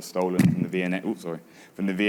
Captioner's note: microphone plopping